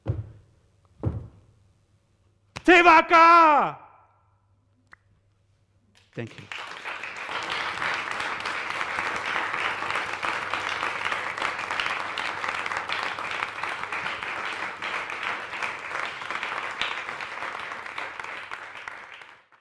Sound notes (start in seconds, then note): 1.0 feet stomping; 2.7 shouting in Maori; 7.3 audience clapping